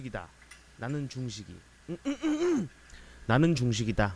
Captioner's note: clears throat